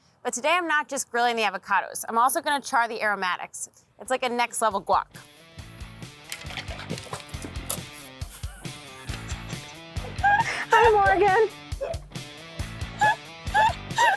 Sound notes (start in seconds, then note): 6.0 upbeat music; 8.0 cans sloshing and clunking; 10.0 laughs